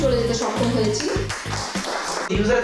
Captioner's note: audience claps